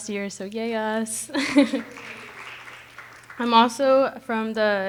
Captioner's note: audience applauding